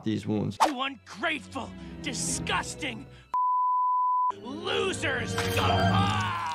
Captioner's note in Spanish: gritando